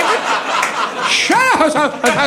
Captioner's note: audience laughing